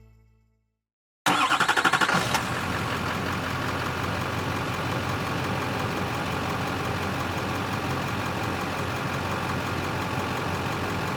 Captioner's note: bright Music; car Engine Revving